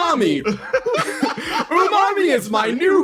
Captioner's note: laughs